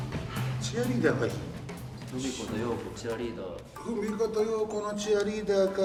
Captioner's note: speaking in foreign language